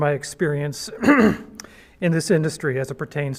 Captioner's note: clears throat